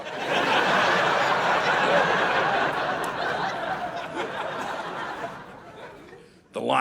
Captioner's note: audience laughing